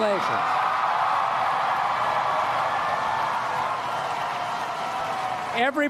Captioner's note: applause